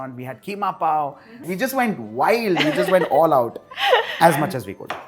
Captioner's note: chuckles